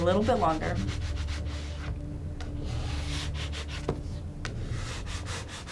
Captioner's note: spatula scraping